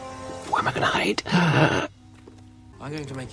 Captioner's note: gasps